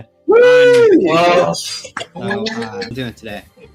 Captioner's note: cheering